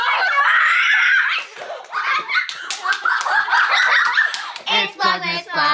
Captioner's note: children cheering and clapping